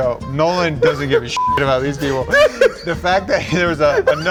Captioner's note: beep